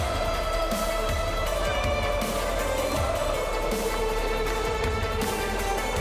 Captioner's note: cheers and applause